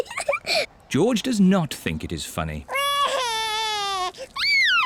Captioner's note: giggles; cries